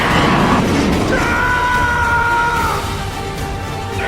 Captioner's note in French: Musique épique; cri guerrier; Musique épique